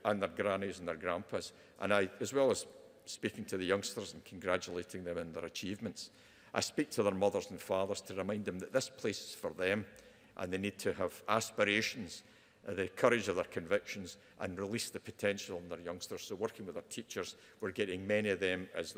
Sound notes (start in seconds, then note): none